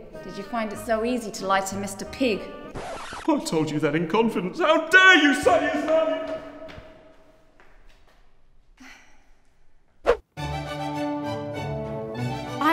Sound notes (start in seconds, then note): 2.7 record scratches; 10.4 upbeat classical music